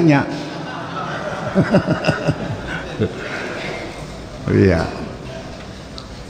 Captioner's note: laughs